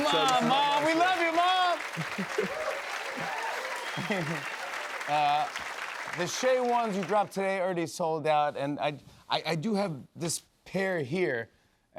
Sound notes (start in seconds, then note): 2.0 cheers and applause